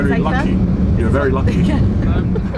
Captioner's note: laughs